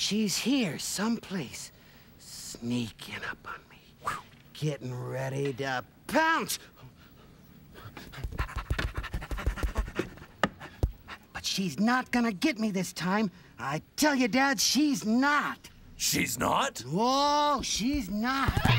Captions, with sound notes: SHE'S HERE, SOMEPLACE, SNEAKING UP ON ME. GETTING READY TO... POUNCE! ( panting ) BUT SHE'S NOT GOING TO GET ME THIS TIME. I TELL YOU, DAD, SHE'S NOT! SHE'S NOT? WHOA, SHE'S NOT.